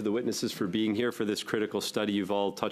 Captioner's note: speaking French